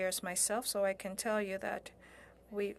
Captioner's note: speaking French